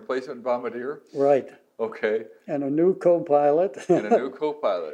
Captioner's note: laughs